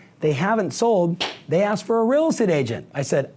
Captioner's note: claps hands